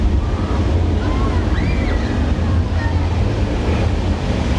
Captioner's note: water running